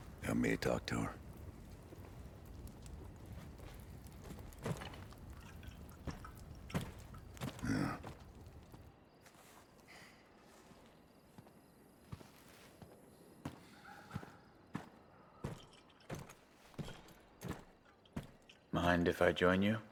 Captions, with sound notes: Help me talk to her. Yeah. [footsteps] Mind if I join you?